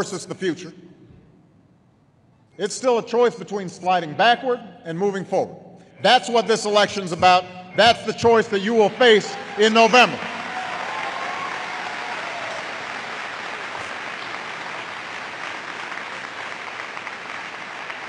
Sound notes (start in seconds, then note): 13.4 applause